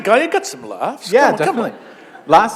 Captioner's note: laughter